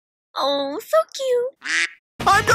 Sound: quack

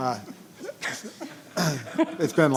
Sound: board members laugh

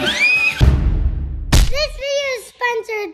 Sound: screams in joy

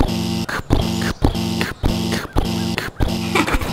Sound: pounding footsteps

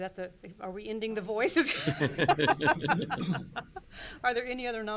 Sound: laughs

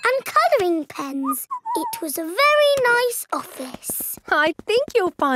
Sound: whistles

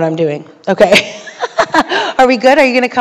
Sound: laugh

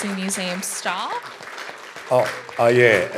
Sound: applause

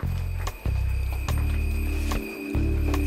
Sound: bell sound

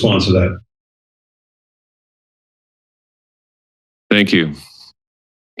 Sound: silence

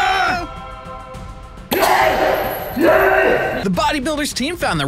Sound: screams

